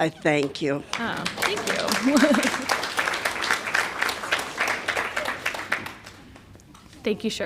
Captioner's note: applause